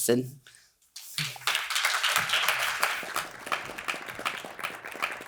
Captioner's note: audience applauding